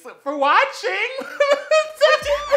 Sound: saltless, tear-less crying

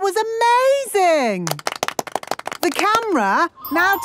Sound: applause

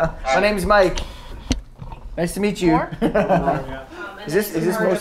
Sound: laughs

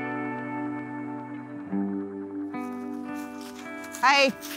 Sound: leaves rustling underfoot

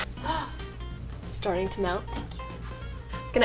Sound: gasps

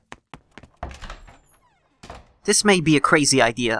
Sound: door opens, then shuts

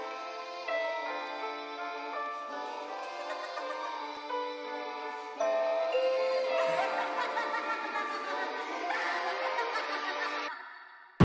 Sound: laughing

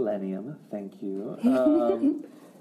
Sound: laughs

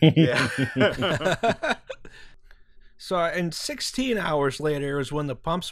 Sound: laughter

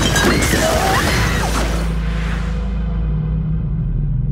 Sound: Ziggy screaming

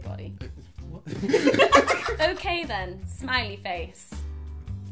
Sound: laughter

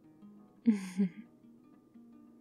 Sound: laughs

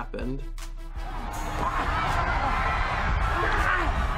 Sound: crowd screaming

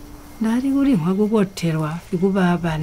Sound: non-english speech

